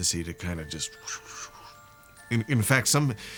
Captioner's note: whistles